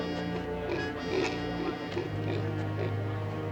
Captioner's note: grunting